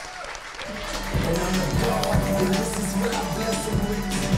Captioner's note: crowd applauds